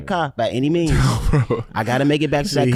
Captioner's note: laughs